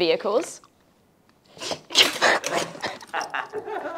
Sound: laughter

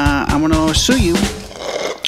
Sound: slurps

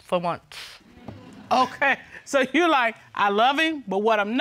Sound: chuckles

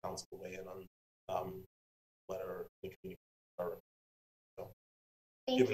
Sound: speaks faintly

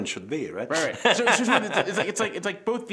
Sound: laughing

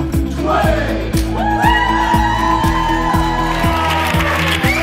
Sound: cheering

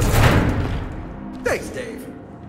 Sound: door slams

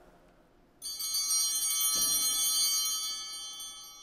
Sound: altar bell ringing

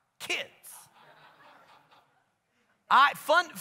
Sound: congregation laughs

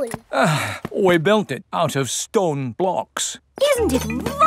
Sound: sighs

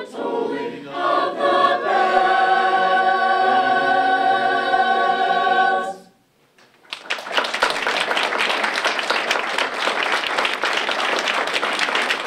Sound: applause

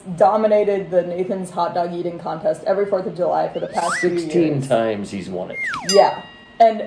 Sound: slide whistle

